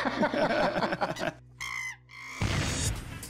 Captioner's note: laughs; chimp squealing